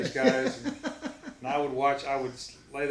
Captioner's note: laughs